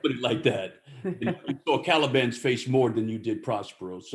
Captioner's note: laughter